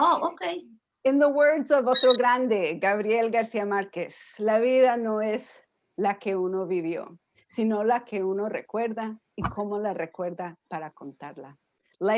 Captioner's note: speaking spanish